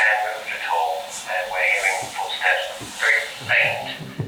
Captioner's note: hiss sound